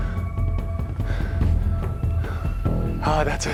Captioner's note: breathing heavily